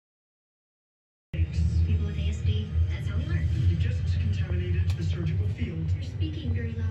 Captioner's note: TV plays in background